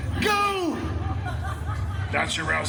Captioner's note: some guests laughing